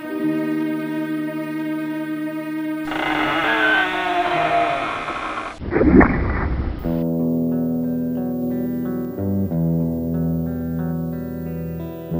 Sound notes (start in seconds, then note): 0.1 daunting music; 2.8 container creaks; 7.0 solemn guitar music